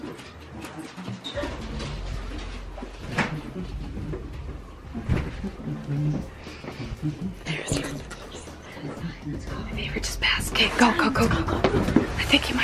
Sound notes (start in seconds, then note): 6.6 dad humming